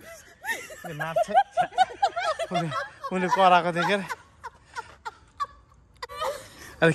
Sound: still laughing

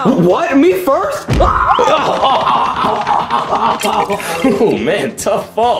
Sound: Mario yelling

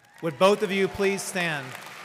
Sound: audience cheering and applauding

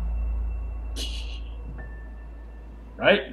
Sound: laughs softly

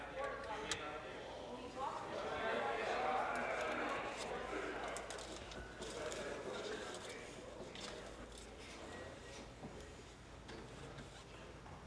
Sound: conversation din

